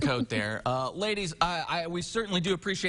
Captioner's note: chuckling